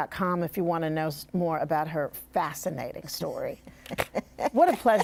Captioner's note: laughs